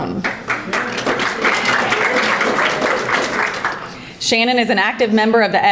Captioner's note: audience applauding